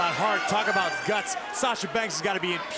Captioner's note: crowd cheering